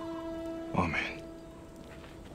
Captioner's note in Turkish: Turgut dış ses